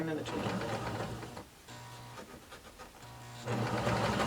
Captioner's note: machine whirring